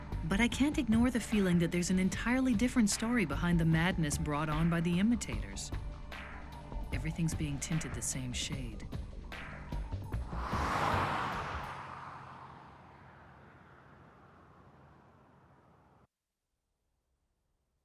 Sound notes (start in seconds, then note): none